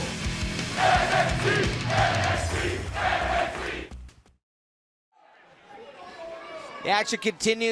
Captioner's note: fans chanting